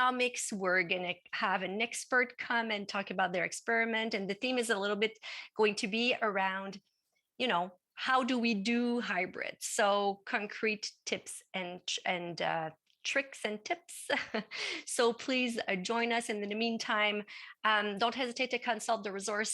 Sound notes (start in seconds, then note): 13.3 laugh